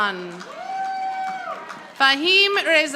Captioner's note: audience applauding